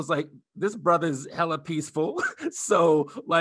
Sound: laughing

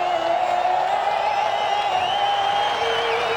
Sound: cheering

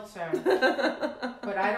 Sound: laughs

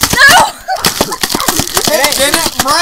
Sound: shaking continues

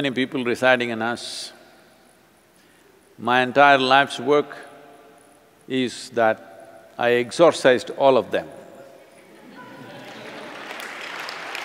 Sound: laughter/Applause

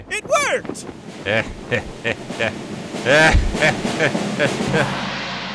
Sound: Technoblade laughs

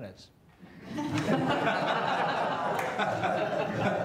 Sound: everyone laughs

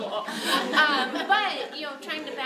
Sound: group laughs

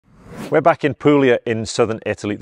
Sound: graphics whooshing

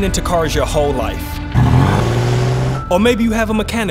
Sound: car engine revving

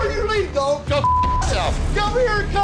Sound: beep

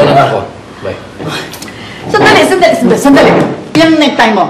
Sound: sighs

